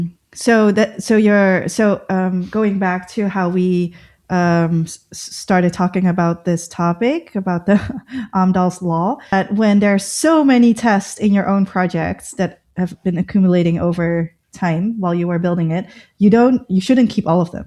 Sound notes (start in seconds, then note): 7.7 laughter